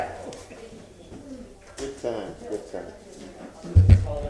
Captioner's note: sounding gavel